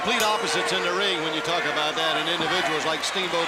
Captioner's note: bell ringing